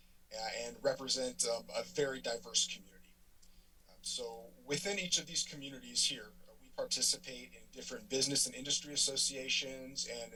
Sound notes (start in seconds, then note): none